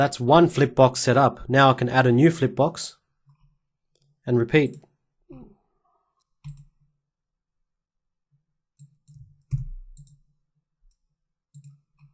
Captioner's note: silence